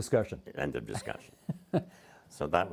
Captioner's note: chuckling